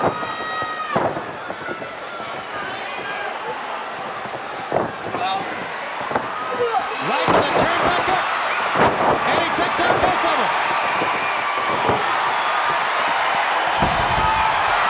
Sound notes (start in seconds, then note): 6.4 wrestlers grunting; 12.1 crowd cheers